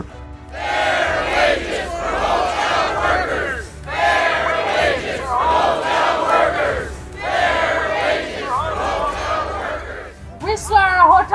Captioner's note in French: la foule scande